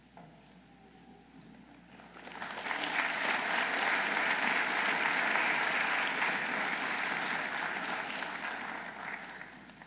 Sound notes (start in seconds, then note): 2.0 audience applauding